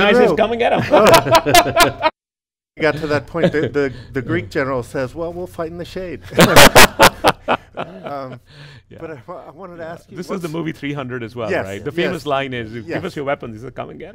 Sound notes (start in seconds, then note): 0.8 laughs; 6.2 all laughing